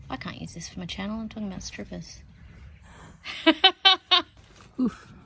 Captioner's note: laughs loudly